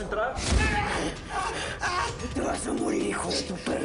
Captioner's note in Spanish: Gritos